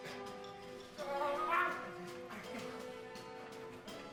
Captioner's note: growls